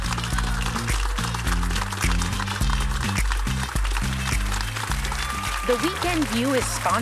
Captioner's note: audience applauding